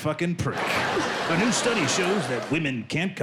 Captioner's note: laughter